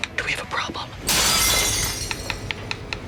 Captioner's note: plate smashes